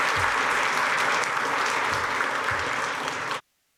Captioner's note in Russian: Аплодисменты